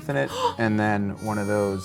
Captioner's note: gasps